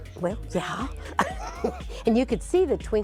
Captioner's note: laughs